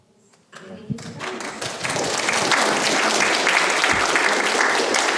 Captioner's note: audience applauding